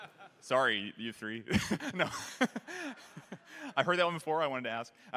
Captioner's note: laughter